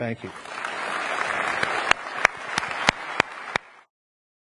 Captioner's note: audience applauds